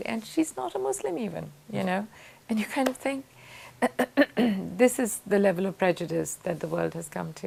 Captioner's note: clears throat